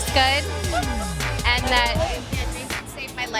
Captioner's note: laughing